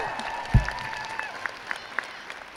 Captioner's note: crowd cheers